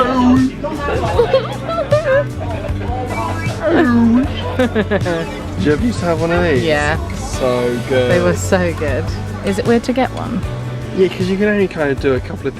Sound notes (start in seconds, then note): 1.0 laughing; 3.3 toy sounding; 4.6 giggling